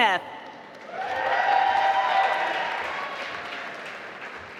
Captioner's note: applause